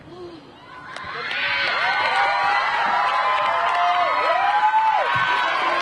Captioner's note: graduates cheering